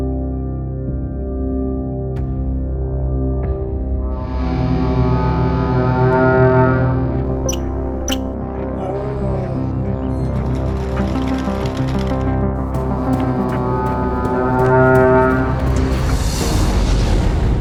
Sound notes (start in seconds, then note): 4.3 dramatic music; 4.3 horn blasts; 7.3 animal chirping; 7.6 dramatic music; 10.3 bird wings flapping; 13.0 dramatic music; 14.2 horn blasting